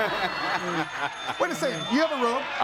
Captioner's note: audience laughs; bell rings